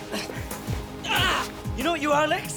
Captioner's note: Lex grunts